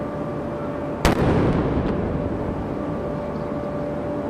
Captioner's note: cannon firing